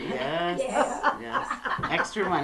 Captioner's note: laughter